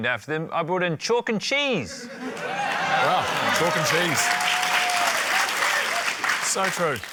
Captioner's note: laughter, applause